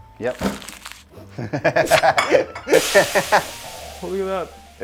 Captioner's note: laughing